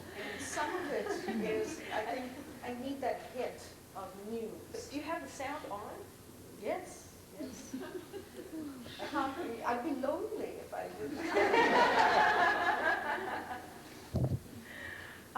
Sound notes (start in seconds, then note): 11.1 laughter